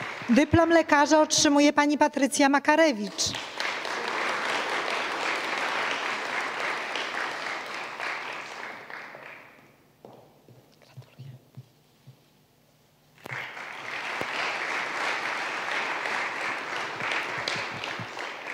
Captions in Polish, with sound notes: Dyplom lekarza otrzymuje Pani Patrycja Makarewicz. [oklaski]